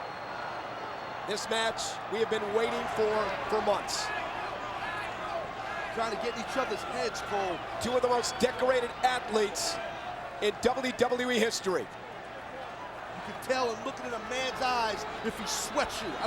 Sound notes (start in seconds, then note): 4.8 audience chattering